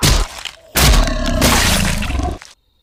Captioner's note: scream; Squelch